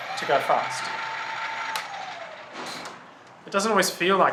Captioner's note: throttle sound